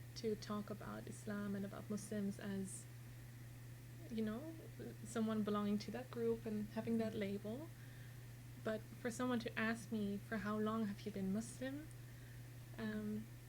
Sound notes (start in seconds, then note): none